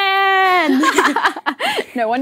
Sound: laughing

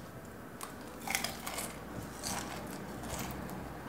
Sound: chewing noise

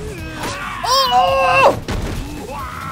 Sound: exclaims

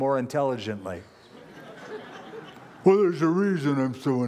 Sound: laughter

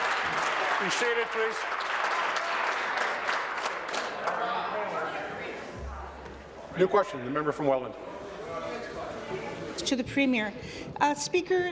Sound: applause

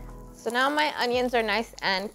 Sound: light upbeat music; onions sizzling

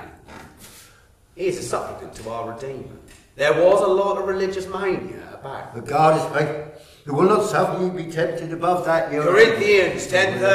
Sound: Joseph muttering in background

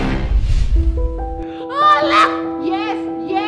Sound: glozell crying

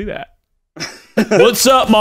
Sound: laughing

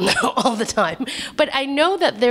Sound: laughter

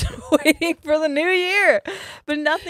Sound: both laughing

